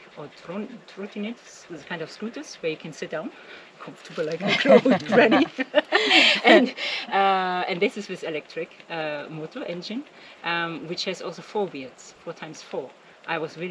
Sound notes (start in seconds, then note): 4.2 laughing